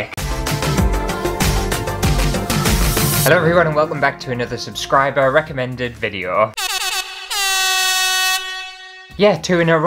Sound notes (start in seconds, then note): 0.2 intro Music; 6.5 air Horn